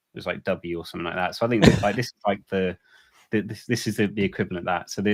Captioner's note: laughing